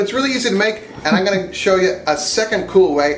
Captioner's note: woman chuckles